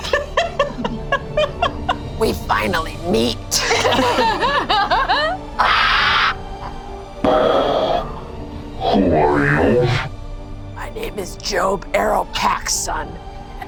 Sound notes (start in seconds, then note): 0.0 laughing; 3.5 group laughs; 7.2 imitates pressurized breathing